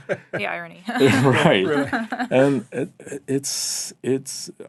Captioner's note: laughing